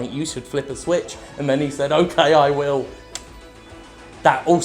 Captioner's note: clicks